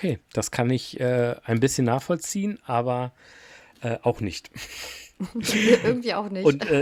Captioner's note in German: gelächter